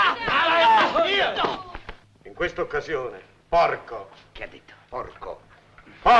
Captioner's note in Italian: grida confuse